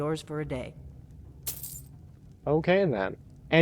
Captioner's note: coins clinking